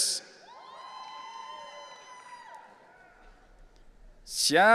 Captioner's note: audience cheering